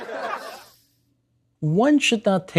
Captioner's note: audience laughter